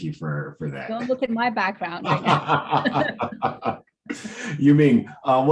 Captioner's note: laughing